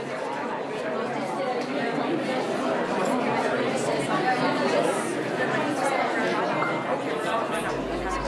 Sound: crowd noises

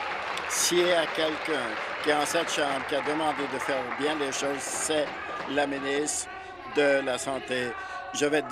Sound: some Applause

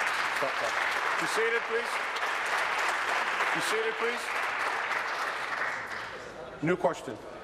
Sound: applause

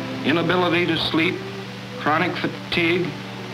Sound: none

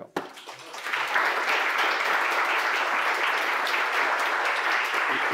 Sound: people clapping

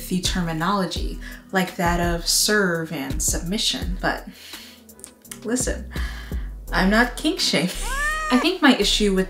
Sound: meow!

